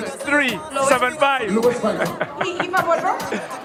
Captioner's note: laughs